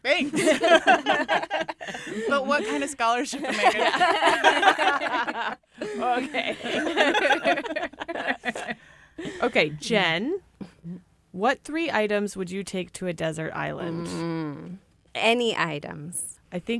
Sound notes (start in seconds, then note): 3.4 all laughing